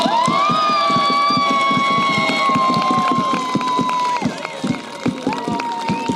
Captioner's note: applause